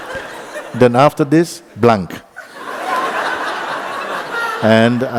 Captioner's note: laughter